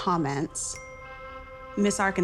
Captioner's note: message dings